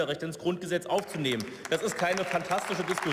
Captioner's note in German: Beifall